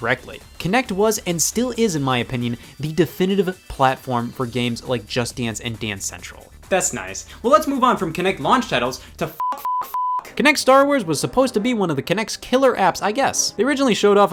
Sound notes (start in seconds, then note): 9.3 beep